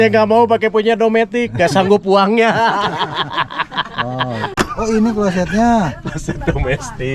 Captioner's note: laughs